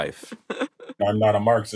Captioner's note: laughs